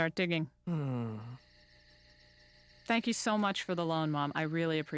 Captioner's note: groans